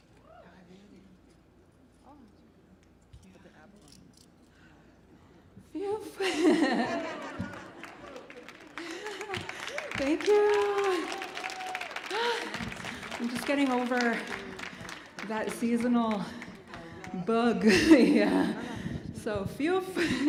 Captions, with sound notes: Phew! [audience laughs] [audience applauds] Thank you. I'm just getting over that seasonal bug. Yeah, phew!